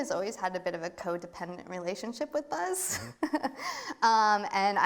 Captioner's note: laughs